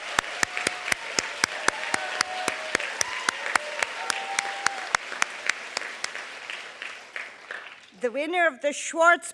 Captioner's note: applause